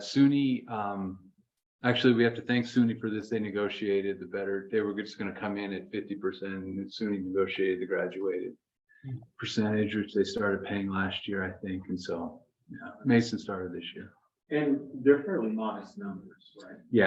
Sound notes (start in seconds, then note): none